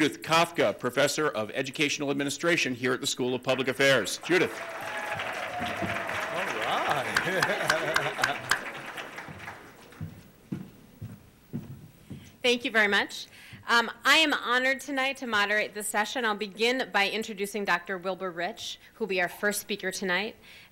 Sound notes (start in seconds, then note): 4.1 applause